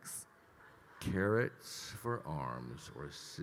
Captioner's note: attendees laughing